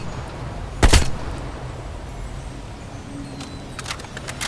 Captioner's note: gun fires